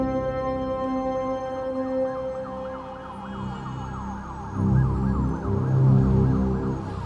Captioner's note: siren blaring